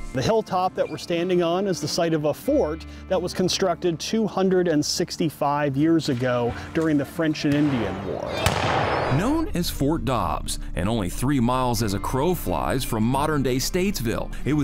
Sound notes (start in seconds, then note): 8.2 guns firing